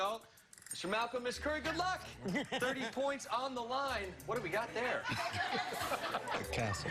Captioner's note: laughter